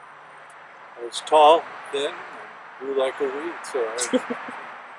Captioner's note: chuckle